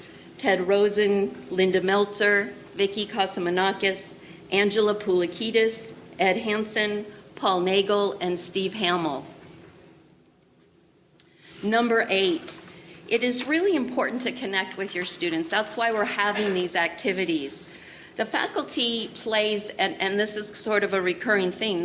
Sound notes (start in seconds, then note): none